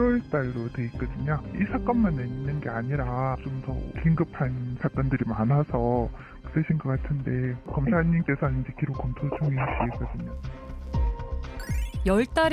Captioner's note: voiceover